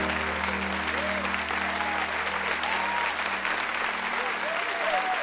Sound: cheers and applause

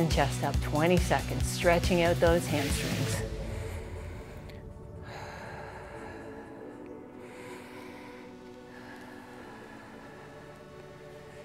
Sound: deep breathes

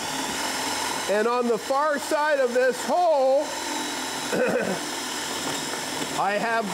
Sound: clears throat

